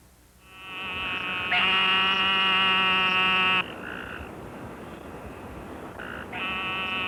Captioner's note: eastern narrow-mouthed toad sounds